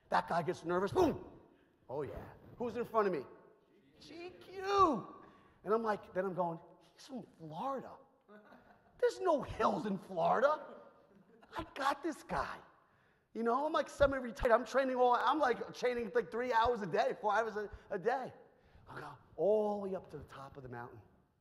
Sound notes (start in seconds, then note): 8.3 audience chuckles